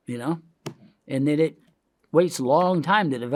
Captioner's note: hand taps